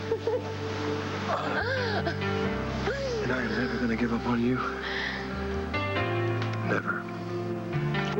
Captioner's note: blair laughs